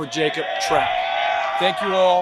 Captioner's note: cheer